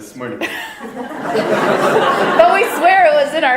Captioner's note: audience laughter